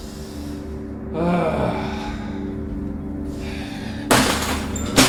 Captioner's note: Manny sighs and groans